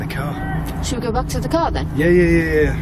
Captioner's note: yelling in the distance